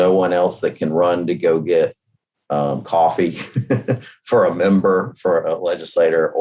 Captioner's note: laughs